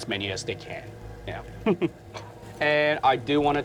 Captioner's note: chuckles